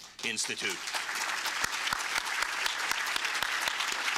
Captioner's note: applause